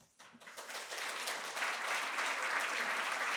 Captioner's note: applause